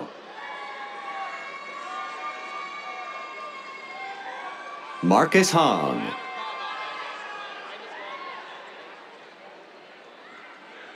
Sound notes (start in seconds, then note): 0.2 cheers; 6.2 cheers